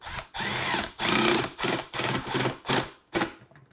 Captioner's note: tool whirring